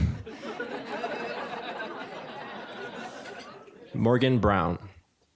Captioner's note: audience laughing